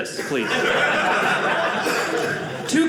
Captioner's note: audience laughing